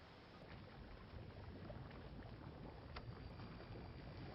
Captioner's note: water trickling